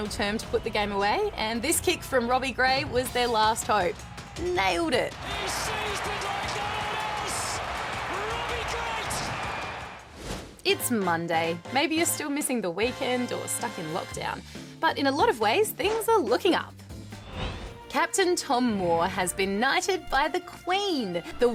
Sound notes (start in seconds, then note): 5.8 cheering